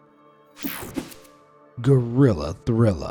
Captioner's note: screen whooshing